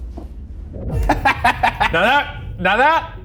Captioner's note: Ryan laughing